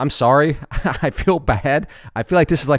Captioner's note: laughs